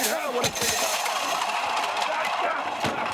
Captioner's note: items clattering; wrestlers vocalizing